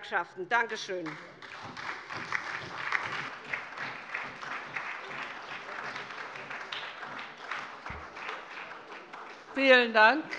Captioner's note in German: Beifall bei der SPD, der LINKEN und der FDP